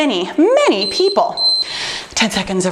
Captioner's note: timer beeping